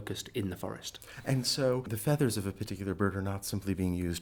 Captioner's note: voiceover